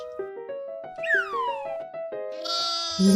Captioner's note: air whistling; baa-ing; Koha giggling